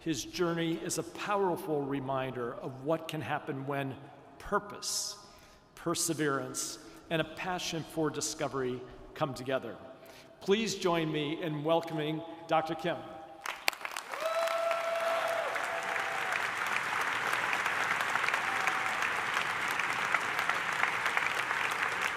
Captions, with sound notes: his journey is a powerful reminder of what can happen when purpose, perseverance, and a passion for discovery come together. Please join me in welcoming Dr. Kim. (audience applauds) (attendee cheering) (audience applauding)